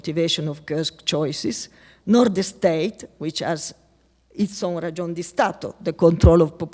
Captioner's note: speaking latin